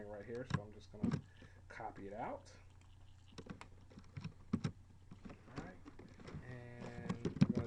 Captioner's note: typing sounds